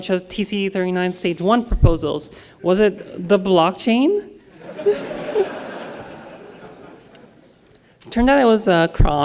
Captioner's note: laughter